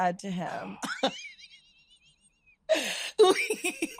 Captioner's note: laughs